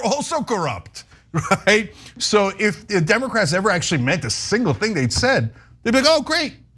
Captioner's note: laugh